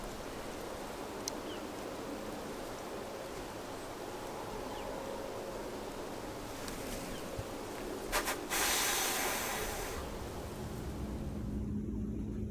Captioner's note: birds/wind